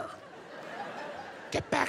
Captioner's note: audience chuckles